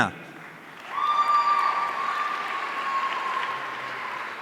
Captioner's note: audience cheering